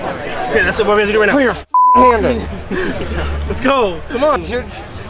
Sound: all laughing

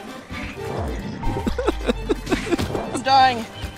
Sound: laughs

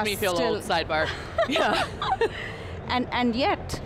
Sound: laughs

